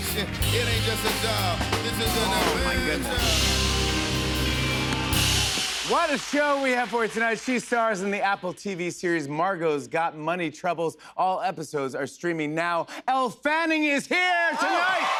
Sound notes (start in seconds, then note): 3.6 cheers and applause